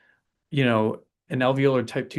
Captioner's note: none